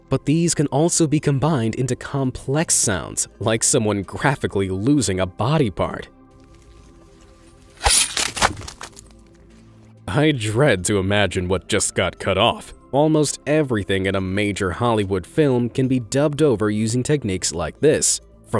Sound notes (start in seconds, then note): 7.6 squelching